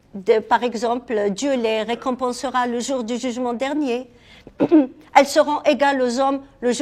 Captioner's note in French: raclement de gorge